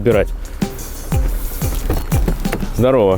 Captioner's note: opening door